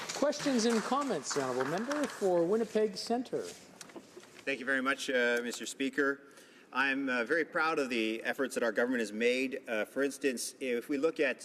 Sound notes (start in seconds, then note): 3.5 some applause